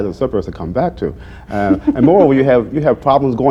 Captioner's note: laughter